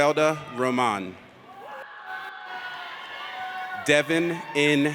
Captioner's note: audience cheers